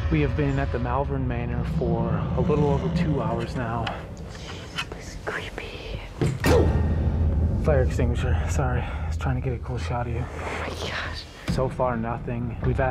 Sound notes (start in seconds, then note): 4.8 whispering